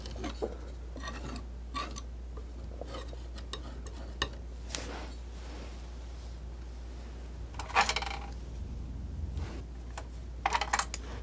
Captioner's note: scratching